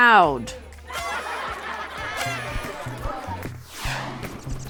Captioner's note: children laughing; party horn whistling; air whooshing; birds chirping